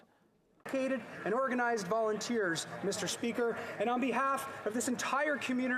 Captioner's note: speaking French